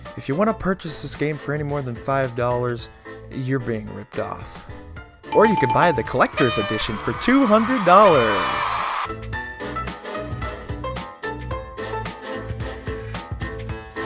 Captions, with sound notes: If you want to purchase this game for any more than five dollars, you're being ripped off Or you could buy the collectors edition for $200 (sarcastic)! *confetti and cheering sounds*